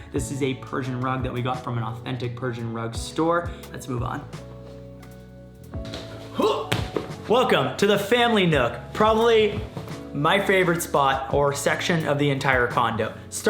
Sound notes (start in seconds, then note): 6.2 grunting